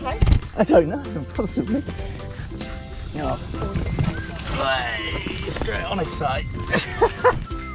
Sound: laughs

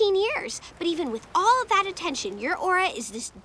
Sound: none

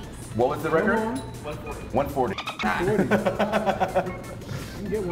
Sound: laugh

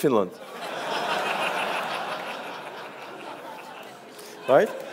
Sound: audience laughs

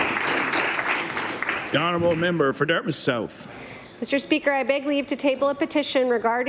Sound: applause

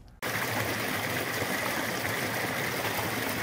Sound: water babbling

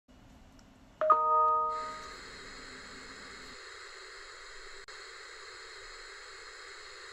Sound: email ding; static

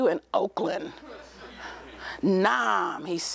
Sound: laughter

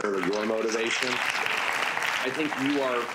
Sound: audience applauds

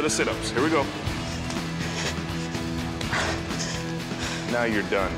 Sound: heavy breathing

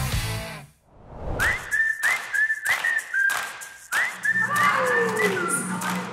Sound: melodic whistling

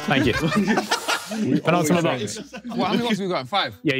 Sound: everyone laughing

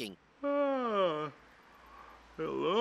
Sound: yawning

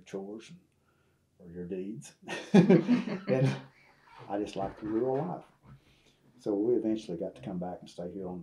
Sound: laughs

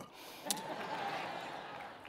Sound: laughing

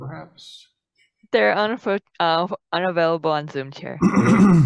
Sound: woman's Voice

